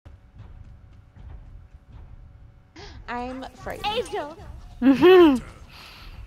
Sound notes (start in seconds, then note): 5.7 gasp